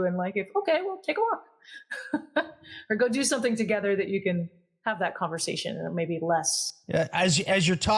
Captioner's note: laugh